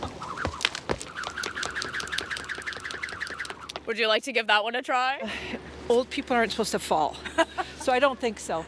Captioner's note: laughter